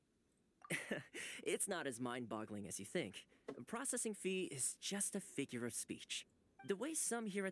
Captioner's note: laughs